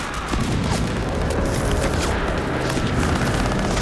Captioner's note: gunfire